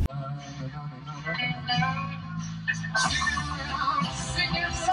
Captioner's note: radio station plays